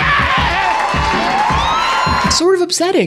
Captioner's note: crowd cheering